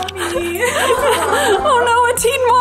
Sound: laughing

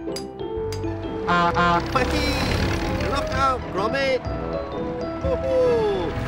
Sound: honk honk

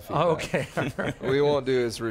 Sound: all laughing loudly

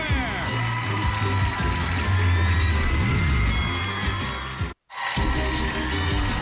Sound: cheers and applause

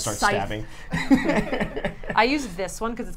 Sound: all laugh

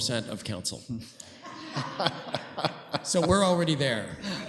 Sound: laughter

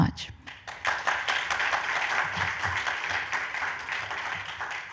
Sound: audience applauds

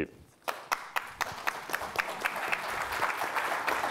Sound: applause

